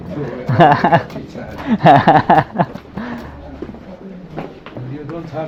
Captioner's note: laughs